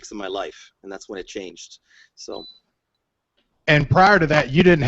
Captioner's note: beep